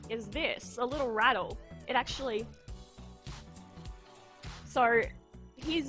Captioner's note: rattles shaker next to mic